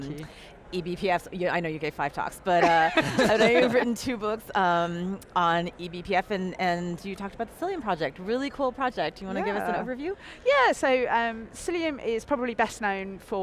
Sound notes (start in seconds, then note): 2.7 panel laughing